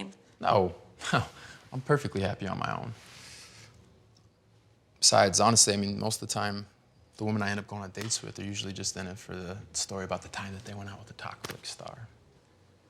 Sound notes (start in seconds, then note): none